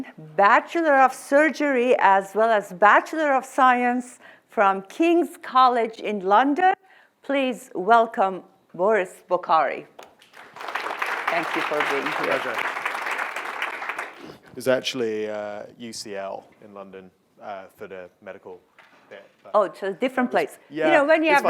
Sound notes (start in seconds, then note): 10.0 clapping